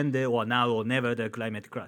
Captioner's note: man speaking in foreign language